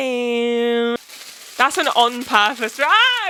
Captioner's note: paper rustling